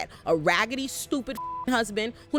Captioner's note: beep